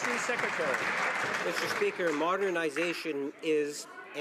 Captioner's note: some Applause